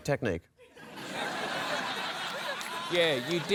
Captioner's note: laughter